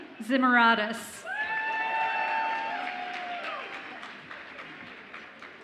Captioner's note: audience applauds and cheers